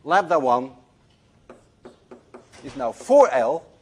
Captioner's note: none